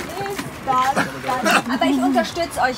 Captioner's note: laughing